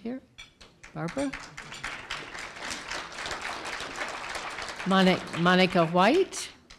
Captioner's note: applause